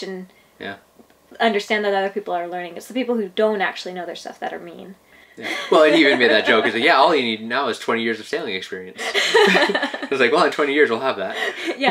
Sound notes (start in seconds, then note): 5.4 laughs; 9.0 laughing